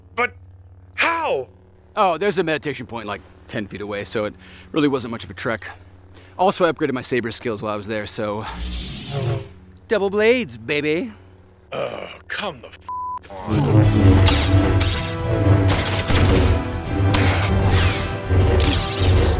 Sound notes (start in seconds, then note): 12.9 beep; 13.2 tense music; 14.2 lightsabers clash